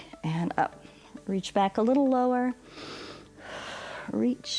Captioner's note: inhales and exhales